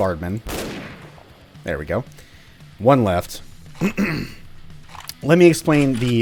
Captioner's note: clears throat